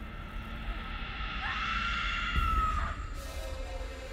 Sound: Zara screaming

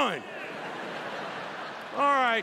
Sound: laughter

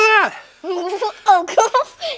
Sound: laughs

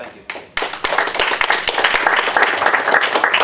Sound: applause

